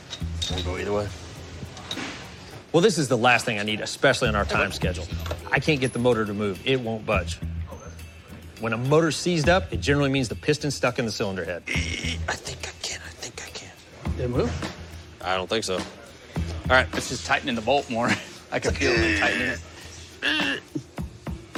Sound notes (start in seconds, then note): 11.7 grunts